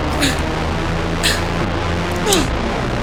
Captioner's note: gasping; screaming